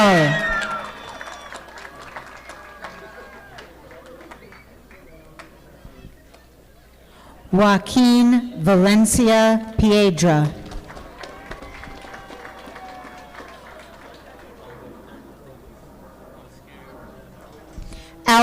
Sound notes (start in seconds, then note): 0.0 audience applauding; 10.4 audience clapping